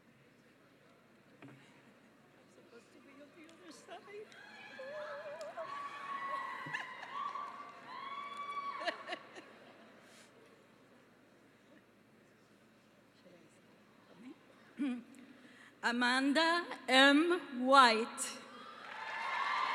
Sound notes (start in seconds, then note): 4.3 cheering; 18.6 cheering and applause